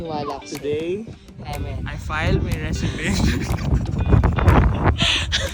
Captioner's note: laughs